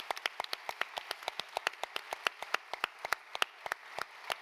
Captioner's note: applause